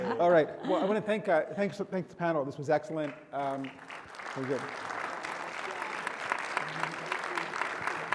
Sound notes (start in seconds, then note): 0.0 panelists chuckle; 3.3 audience applauds